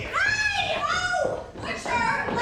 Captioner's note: Sarah shouts